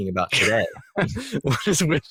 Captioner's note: laugh